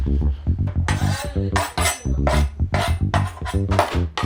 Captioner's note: knife scraping